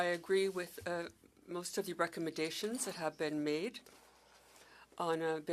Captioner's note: speaking French